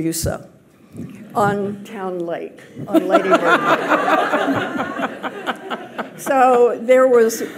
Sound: audience laughs

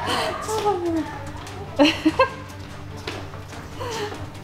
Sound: laughing

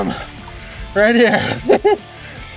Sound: laughing

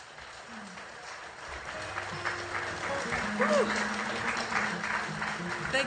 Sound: audience applauding

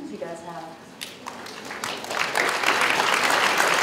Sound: applause

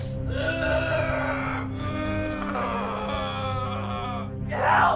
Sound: Sean groans

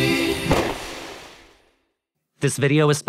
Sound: poof~

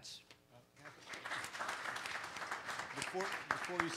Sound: audience applause

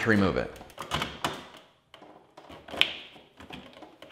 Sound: plastic clicks

